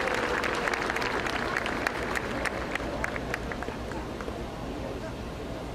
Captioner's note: applause